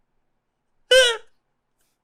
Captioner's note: laugh escapes